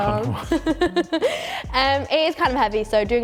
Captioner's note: laughs